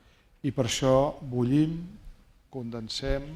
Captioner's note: speaking spanish